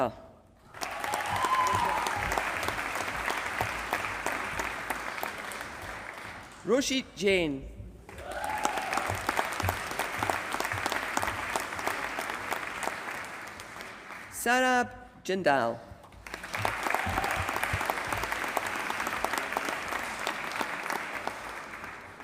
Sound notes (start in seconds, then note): 0.6 applause; 8.1 applause; 16.2 applause